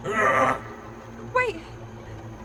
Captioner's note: leprechaun grunting